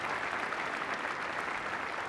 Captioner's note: applause